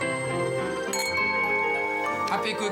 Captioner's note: crystal rings